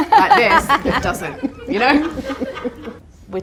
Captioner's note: audience laughter